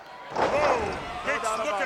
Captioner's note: ring thuds